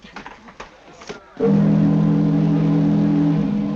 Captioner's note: ships horn blowing